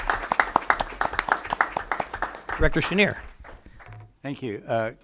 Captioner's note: applause